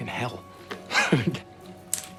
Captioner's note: chuckles